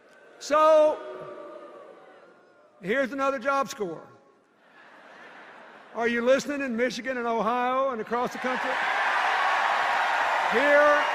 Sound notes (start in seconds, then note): 4.6 laughter; 8.2 cheers and applause